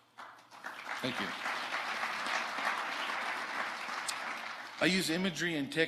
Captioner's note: audience applauding